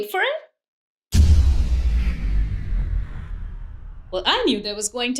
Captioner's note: deep sound